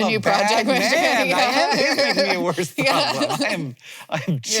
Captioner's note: laughs